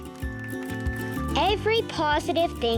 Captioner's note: applause